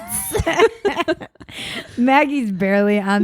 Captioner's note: both laugh